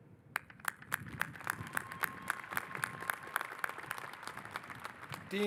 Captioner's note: applause